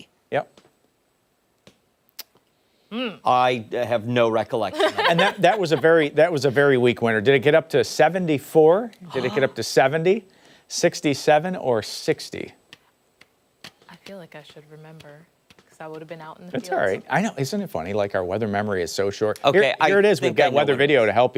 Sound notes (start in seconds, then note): 9.1 laughter